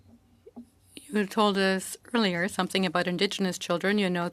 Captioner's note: speaking French